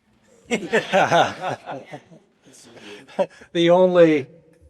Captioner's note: laughter